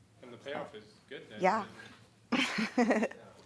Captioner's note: laughing